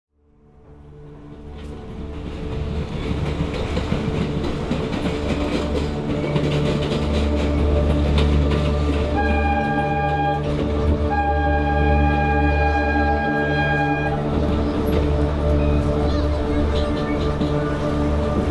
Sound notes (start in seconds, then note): 0.0 train rumbling on tracks; 7.4 train brakes screeching; 12.9 thoughtful slow music